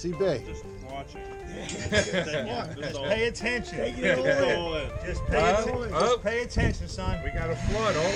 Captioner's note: everyone laughs